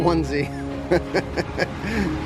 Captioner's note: laughs